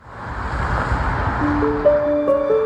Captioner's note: street traffic; gentle rhythmic music